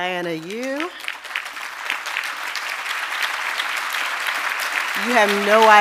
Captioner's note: audience applauding